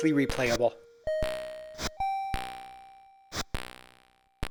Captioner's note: bells chime as Quasimodo leaps to each rope